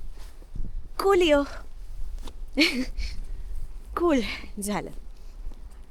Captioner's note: chuckles